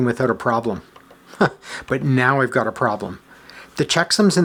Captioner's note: chuckles